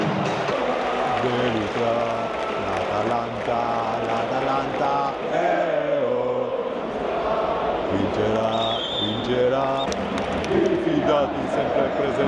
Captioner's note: chanting